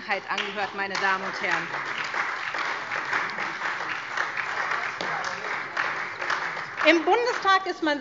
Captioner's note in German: Beifall SPD, BÜNDNIS 90/DIE GRÜNEN, Freie Demokraten und DIE LINKE